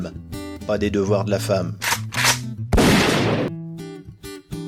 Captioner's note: click,click ... boom